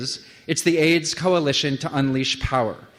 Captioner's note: none